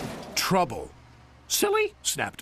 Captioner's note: crash